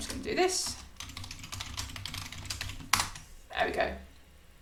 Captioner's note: keyboard clattering